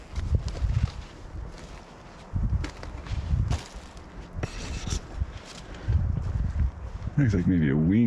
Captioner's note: wind